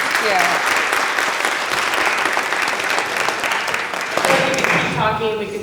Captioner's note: applause